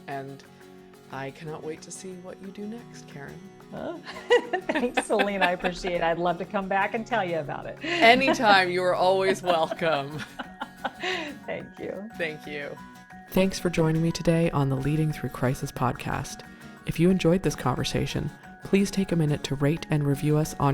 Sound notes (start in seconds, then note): 3.2 upbeat music; 4.1 laughing; 9.1 laughing